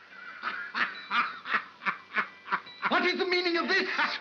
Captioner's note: whimsical music; Ollie laughs